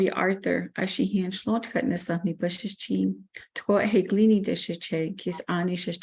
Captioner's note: speaks in foreign language